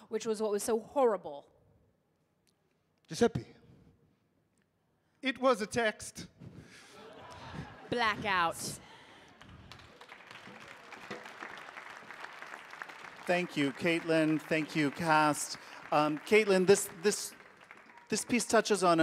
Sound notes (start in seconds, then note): 6.9 audience laughing; 9.6 audience applauding